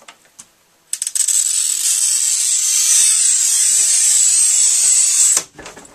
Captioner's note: krrssssssssssssssssssss